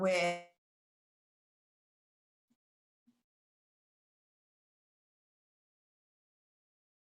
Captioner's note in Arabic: صوت غير مستقر